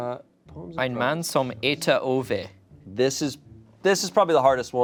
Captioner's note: speaking in a foreign language